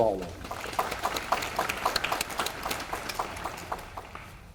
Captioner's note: audience applauding